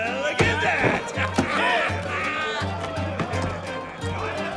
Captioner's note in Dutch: mannen lachen